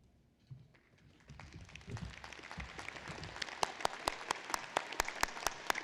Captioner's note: applause